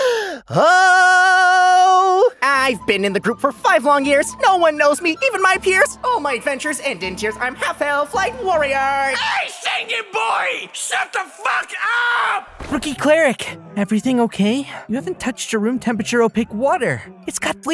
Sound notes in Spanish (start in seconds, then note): 1.5 inhalación más profunda